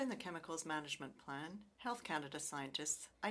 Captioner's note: speaking French